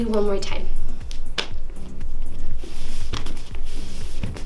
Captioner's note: slap